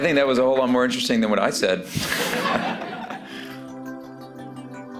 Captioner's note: laughter